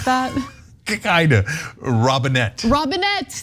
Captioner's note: laugh